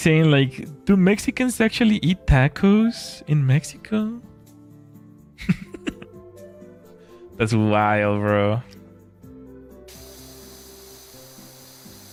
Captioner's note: laughter